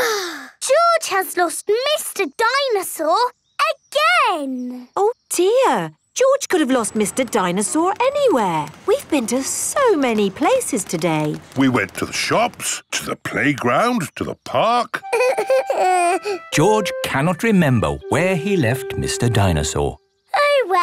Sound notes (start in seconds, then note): 0.0 sighs; 15.1 whimpers